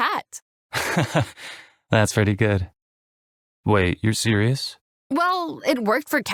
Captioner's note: laughs